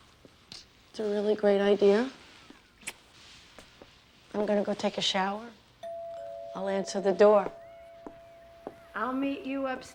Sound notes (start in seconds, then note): 5.8 doorbell rings